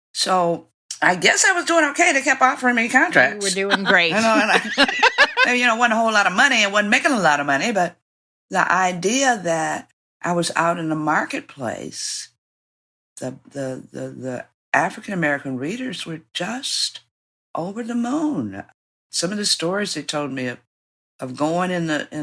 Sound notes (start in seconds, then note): 3.4 laughter